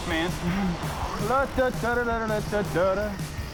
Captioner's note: humming circus music